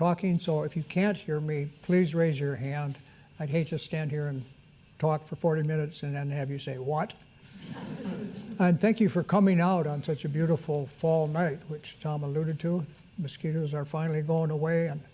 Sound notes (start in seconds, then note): 7.5 audience chuckles